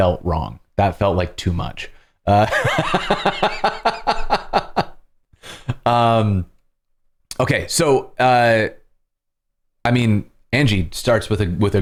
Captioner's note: laughter